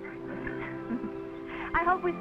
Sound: horse snickering; chuckling

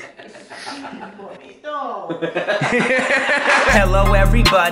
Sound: laughter; intro music

